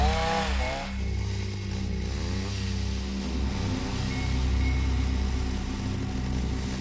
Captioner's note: ominous music; chainsaw whirs; ominous music